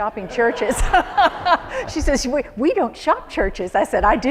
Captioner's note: laughter